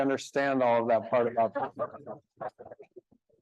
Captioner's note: speaking faintly